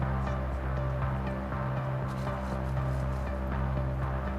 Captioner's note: cameras click